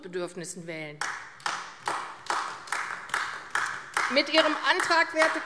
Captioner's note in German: Beifall AfD